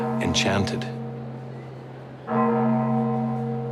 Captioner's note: campana sonando